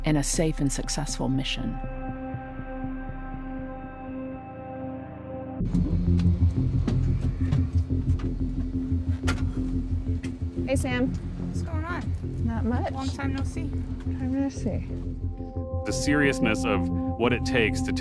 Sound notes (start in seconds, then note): 5.8 door opens; 9.2 door closes